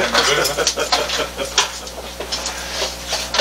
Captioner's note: laugh